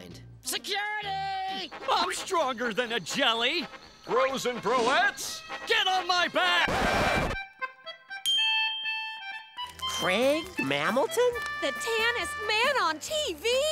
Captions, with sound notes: Security! I'm stronger than a jelly! Bros and broettes, get on my back! [record scratch] Craig Mammalton? The tannest man on TV?